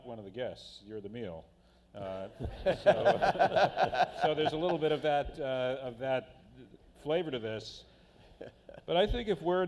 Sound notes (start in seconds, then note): 2.4 laughter